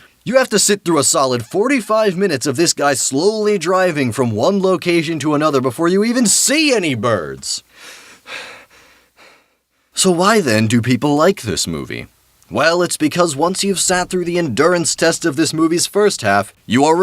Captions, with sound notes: You have to sit through a solid 45 minutes of this guy slowly driving from one location to another before you even SEE ANY BIRDS!! (Inhale) (Exhale) (Inhale) (Exhale) So why then do people like this movie? Well, it's because once you've sat through the endurance test of this movie's first half, you are